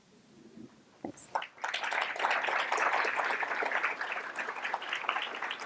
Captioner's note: applause